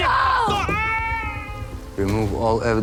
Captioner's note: screaming